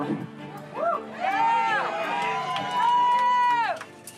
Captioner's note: cheering